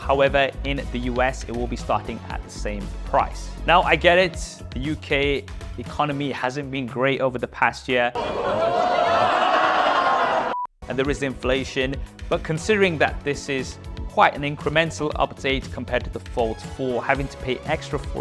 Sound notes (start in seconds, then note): 8.2 crowd groaning